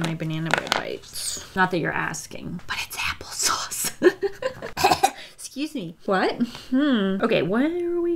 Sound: laughs, coughs

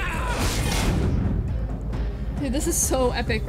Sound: punch

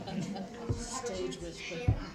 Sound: laughter

